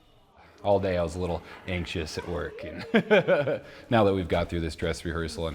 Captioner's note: laughs